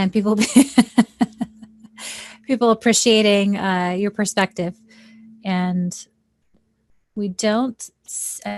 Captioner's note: giggles